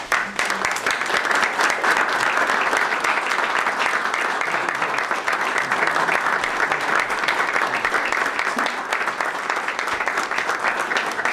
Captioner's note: applause